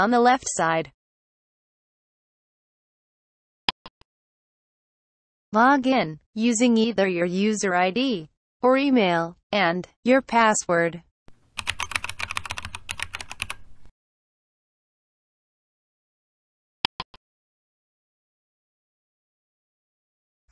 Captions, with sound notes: The Log in link is on the left side. [click sound] Log in user either your user ID or Email, and password. [typing sound] [click sound]